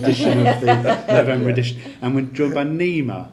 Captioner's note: laughing